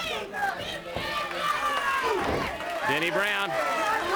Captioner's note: crowd cheering